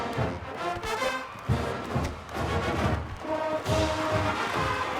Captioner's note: crowd cheering